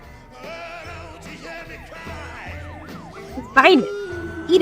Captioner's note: siren blares